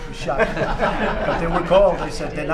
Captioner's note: laughter